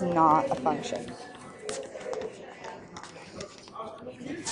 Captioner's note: stylus taps